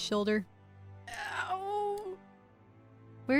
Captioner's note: pained groan